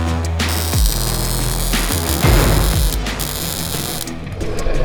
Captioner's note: welder crackling